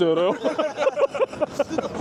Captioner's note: hahahahahahahaha